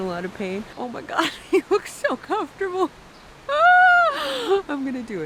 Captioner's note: laughs